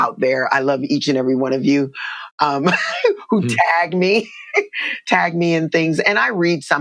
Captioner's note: laughter